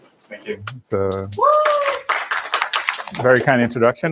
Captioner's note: applause